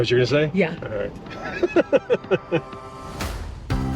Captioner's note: chuckling; upbeat music